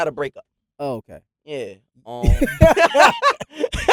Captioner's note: laughing